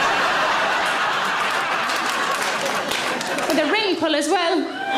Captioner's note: audience laughing